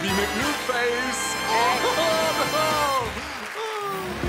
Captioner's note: laughs